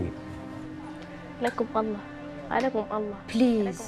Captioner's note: speaking foreign language